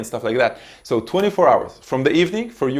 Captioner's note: hands smacking